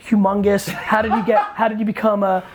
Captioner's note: Kai laughs